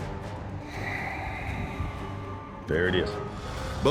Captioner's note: sighs